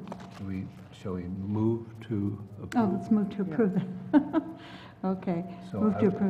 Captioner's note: laugh